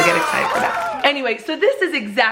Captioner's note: party buzzers and cheering